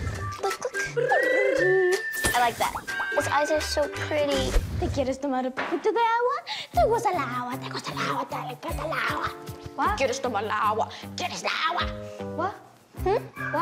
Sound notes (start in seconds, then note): 0.0 trills tongue; 5.0 speaking Spanish